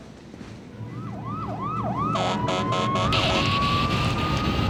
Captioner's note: sirens wailing